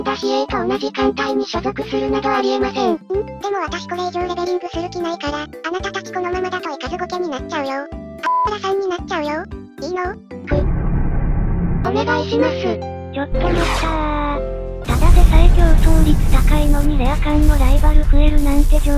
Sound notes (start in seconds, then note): 8.2 beep